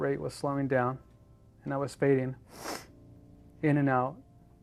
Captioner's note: sniffles